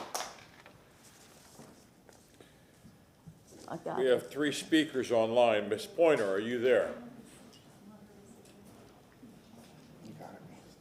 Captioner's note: applause